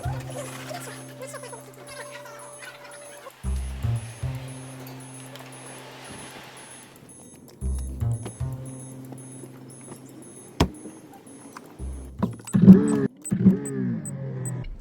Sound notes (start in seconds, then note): 0.2 elevator door squeaks open; 3.5 door opens to city noises; 8.1 car door opens; 10.5 car door closes; 10.5 seatbelt clicks; 12.3 car engine starting up